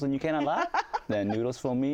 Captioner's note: laughs